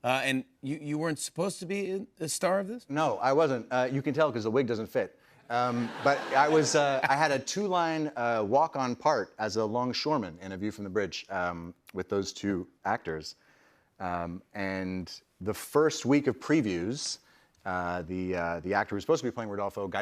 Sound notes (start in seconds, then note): 5.6 laughter